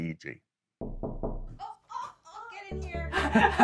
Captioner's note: Knocking